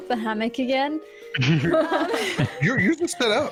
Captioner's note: all sympathy laughter